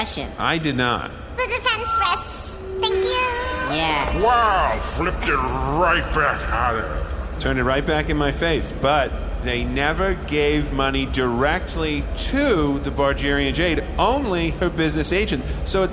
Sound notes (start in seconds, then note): 3.3 wings fluttering; 3.7 airhorn